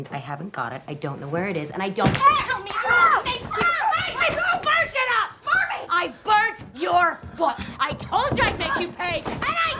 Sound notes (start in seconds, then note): 3.0 shouting; 4.1 yelling